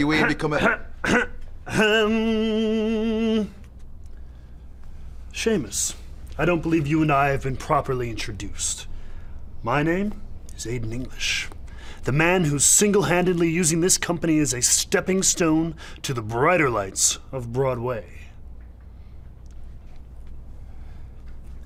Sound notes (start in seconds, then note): 0.5 clearing throat